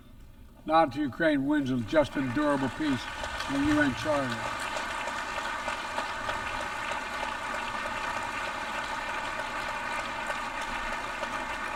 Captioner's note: applause